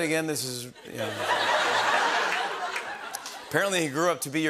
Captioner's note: laughter